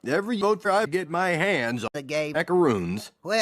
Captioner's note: none